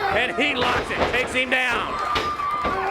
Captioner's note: crowd cheering